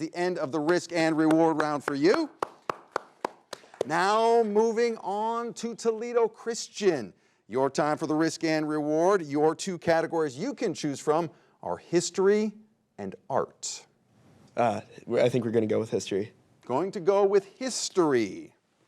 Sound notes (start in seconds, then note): 1.0 clapping